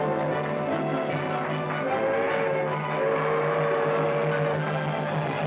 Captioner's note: train whistling